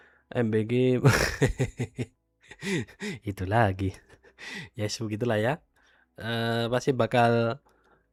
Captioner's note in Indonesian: tertawa